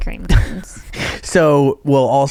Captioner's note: laughing